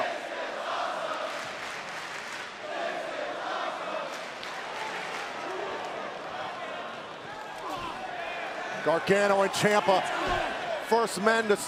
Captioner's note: crowd cheering